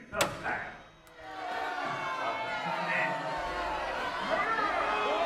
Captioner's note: crowd yelling